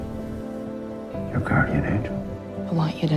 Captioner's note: voiceover